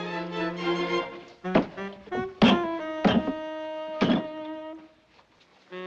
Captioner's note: pounding